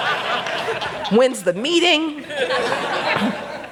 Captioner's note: laughter